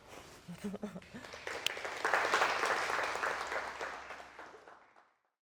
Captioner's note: participants laughing; audience applauding